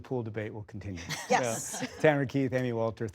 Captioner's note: laughter